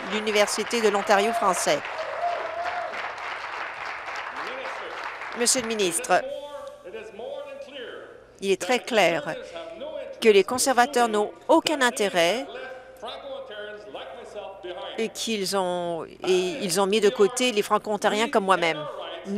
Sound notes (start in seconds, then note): 4.7 speaking in French; 5.5 applause